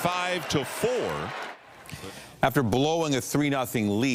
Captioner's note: applause